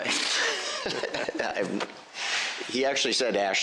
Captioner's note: laughter